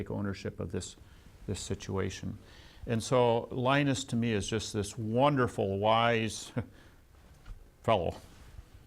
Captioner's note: laughs